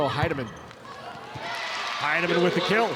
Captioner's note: audience cheering